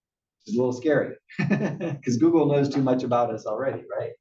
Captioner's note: laugh